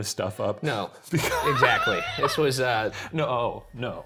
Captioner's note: laughing